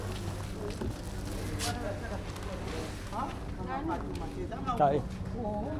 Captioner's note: people chattering